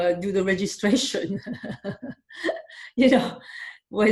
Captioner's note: laughing